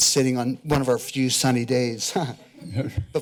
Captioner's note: laughs